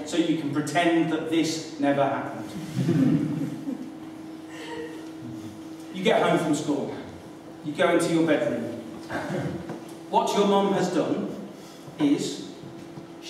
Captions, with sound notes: so you can pretend that this never happened. (laughter) You get home from school, you go into your bedroom. What your mum has done is...